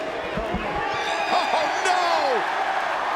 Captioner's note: crowd cheers